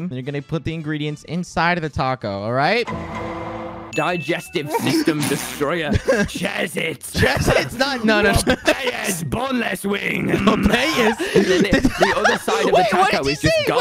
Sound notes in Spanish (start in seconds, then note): 7.1 risas